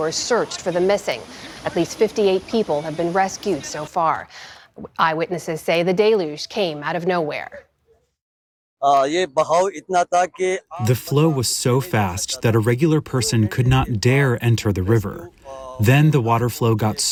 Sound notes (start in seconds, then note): 11.4 through translator